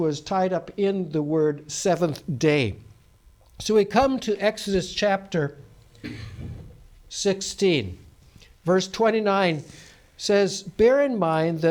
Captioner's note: coughs